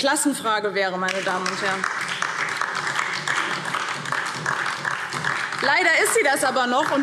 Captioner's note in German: Beifall DIE LINKE und vereinzelt SPD